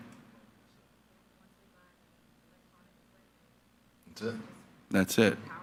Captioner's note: speaking faintly